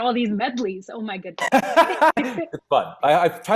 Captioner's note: laughs